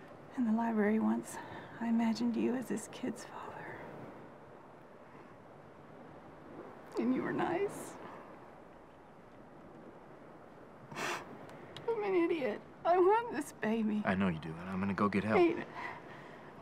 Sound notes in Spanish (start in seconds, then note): 6.8 voz vacilante; 10.9 olfatea